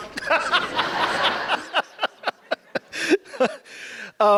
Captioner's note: laughs